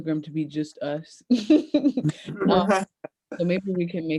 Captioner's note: laughs